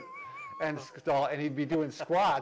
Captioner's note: laughter